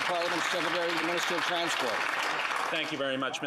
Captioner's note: applause